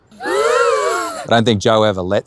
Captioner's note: Muffin screaming; pensive music; group gasps